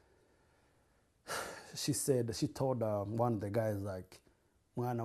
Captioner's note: sighs; non-english